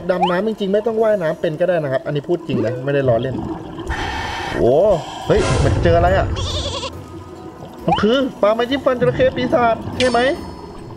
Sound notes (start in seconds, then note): 3.9 inhale